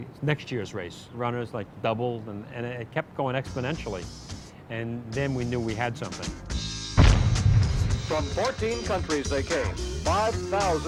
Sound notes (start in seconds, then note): 5.4 cannon fires; 7.0 man over TV